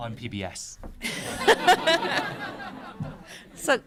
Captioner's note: laughter